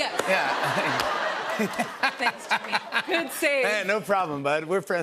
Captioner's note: laughter